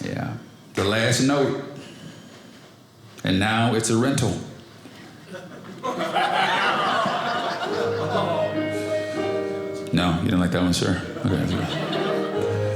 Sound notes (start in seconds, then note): 5.2 audience laughing; 7.4 piano playing